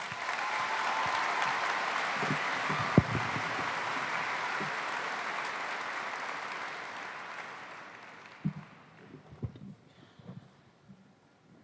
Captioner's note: applause